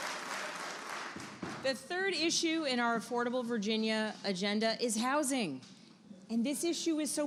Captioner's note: applause